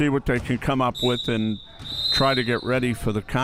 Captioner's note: whistle chirping